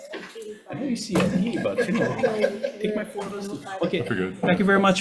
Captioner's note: several people chatting among themselves